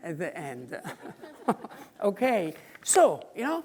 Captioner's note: audience laughing